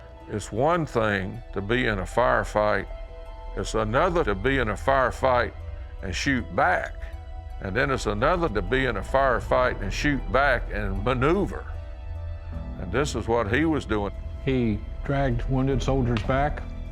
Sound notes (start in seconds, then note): none